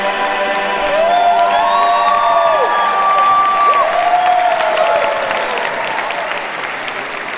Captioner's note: cheers and applause